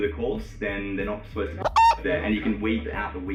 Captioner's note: beep